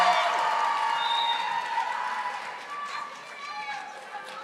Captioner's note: audience applauding